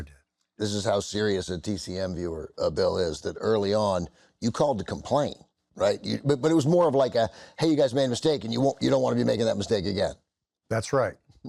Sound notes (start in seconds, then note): none